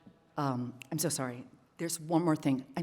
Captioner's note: fingers snapping